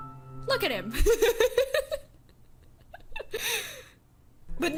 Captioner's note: laughs